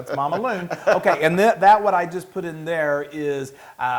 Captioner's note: laugh